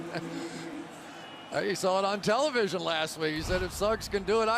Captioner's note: laughs